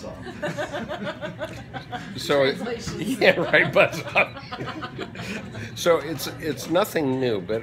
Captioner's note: laughter